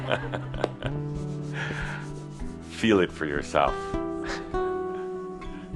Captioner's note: Adamus chuckles